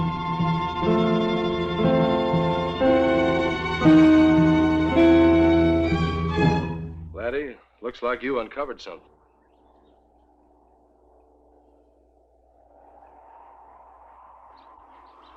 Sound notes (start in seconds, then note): 0.0 dramatic music; 10.0 wind whooshing